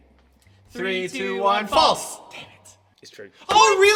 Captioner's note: hushed